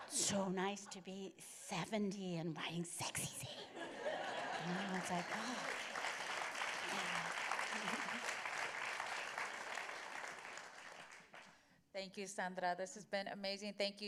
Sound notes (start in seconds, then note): 3.6 laughter; 4.4 applause